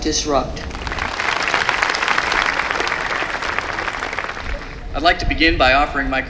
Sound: applause

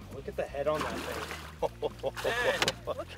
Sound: laughs

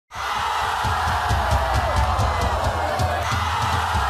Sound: crowd jeers

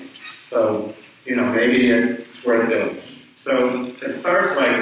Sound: speaks away from mic

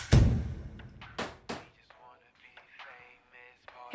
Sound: door bangs; hand taps; slow rap music

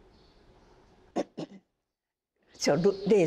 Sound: cough, cough

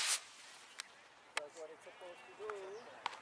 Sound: back sliding

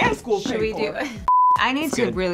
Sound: laughs

